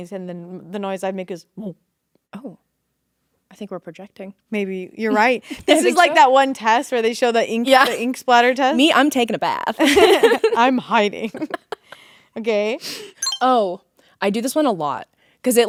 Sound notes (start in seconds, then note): 11.3 both laughing; 11.4 Ashby laughing; 13.2 electronic beep